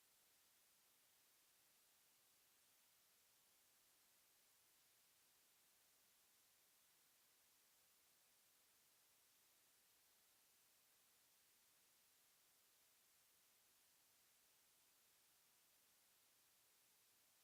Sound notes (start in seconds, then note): none